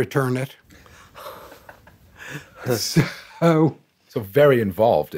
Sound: chuckling

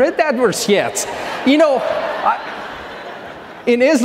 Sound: audience laughing

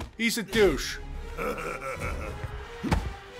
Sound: laughs

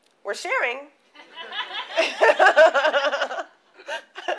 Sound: laughter

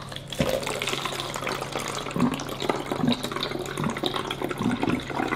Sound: water trickles

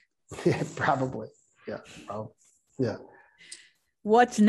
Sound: chuckles softly

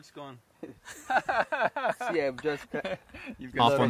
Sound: laughing

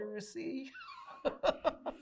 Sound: laughs

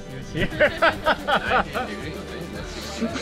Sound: laughs

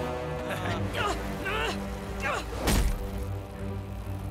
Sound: grunting

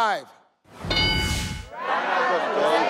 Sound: metallic chime

